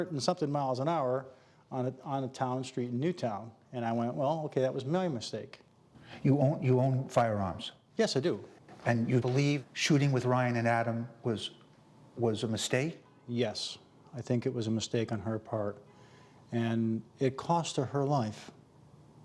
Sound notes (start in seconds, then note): none